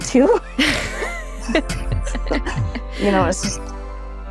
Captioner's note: both speakers lauging